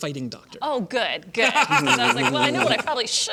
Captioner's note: laughter